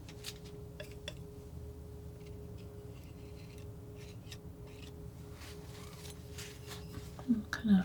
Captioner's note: scraping